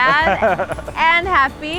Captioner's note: laughter